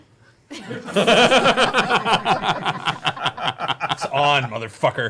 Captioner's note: laughter